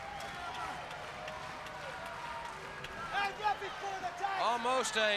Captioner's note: crowd chatter